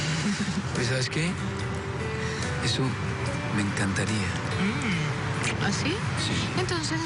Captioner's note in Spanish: Risas